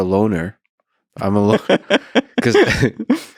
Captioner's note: laughing